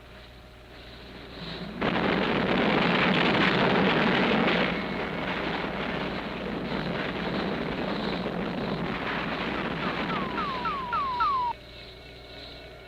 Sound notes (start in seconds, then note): 0.8 missiles detonating; 9.6 radar beeping